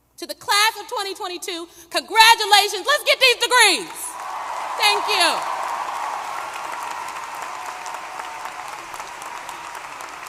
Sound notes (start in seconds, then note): 5.5 applause